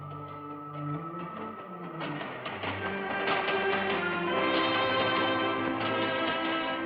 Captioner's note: train rumbling